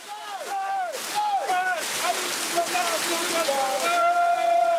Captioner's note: Senegalese spoken audio